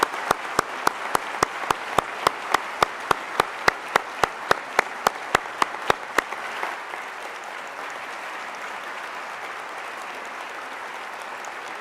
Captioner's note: applause